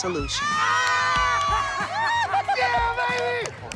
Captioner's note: cheering